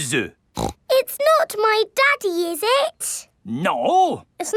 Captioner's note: snorts